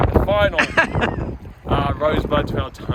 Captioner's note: laughs